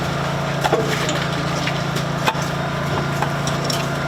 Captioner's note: generators buzz